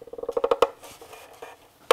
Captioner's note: creaks